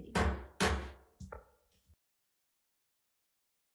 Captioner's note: gavel bangs